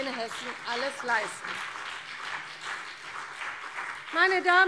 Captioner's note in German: Beifall CDU und BÜNDNIS 90/DIE GRÜNEN